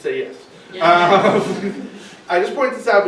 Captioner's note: laughing